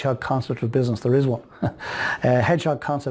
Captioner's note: chuckles